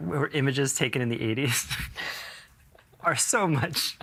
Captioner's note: laughing